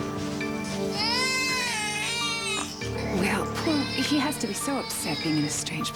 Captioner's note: cries